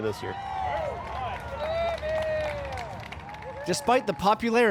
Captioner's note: cheering